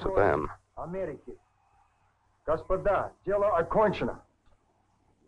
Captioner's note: speaks in Russian